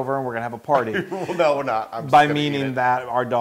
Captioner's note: laugh